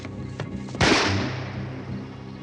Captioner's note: gunshot